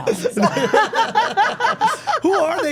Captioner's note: everyone laughing